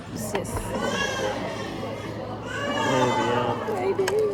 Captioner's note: A baby in the restaurant started crying